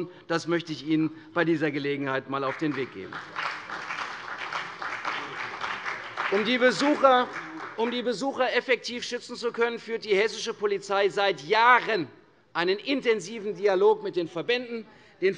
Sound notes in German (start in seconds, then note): 2.4 Beifall CDU und vereinzelt BÜNDNIS 90/DIE GRÜNEN